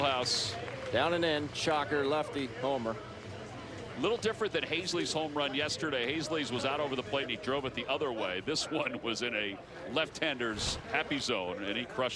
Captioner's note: cheers and applause